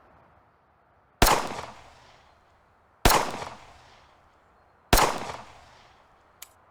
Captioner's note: gunshots